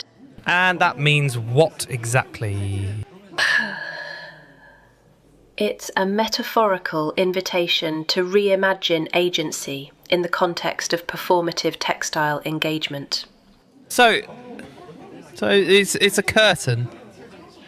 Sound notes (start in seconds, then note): 4.1 sighs